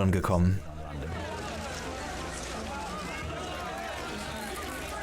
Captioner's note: loud chatter